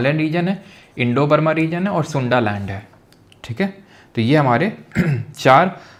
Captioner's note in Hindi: गला साफ़ करने की आवाज़